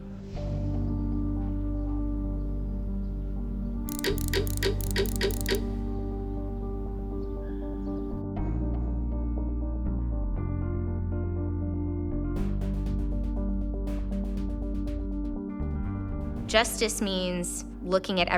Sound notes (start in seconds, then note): 0.1 solemn music continues; 3.8 ticking